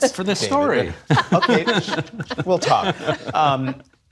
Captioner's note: laughter